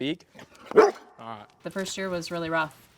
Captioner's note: dog barks